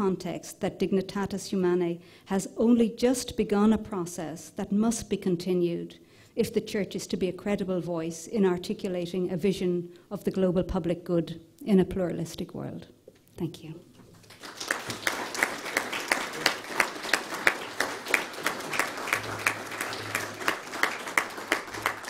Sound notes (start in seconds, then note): 14.1 applause